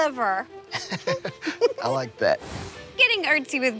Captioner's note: chuckling